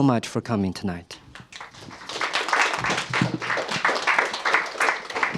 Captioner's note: applause